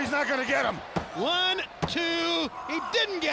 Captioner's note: hand pounding